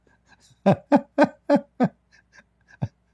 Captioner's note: Ketawa